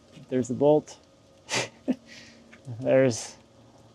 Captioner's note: chuckling